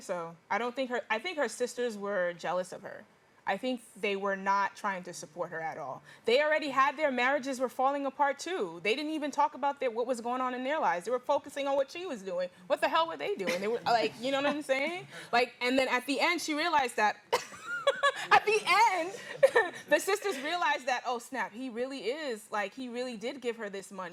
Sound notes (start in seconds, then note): 17.4 laughs